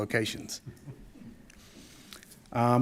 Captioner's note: attendees chuckling